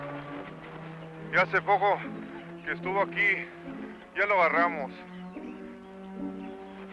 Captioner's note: speaking in foreign language